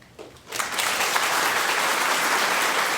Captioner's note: applause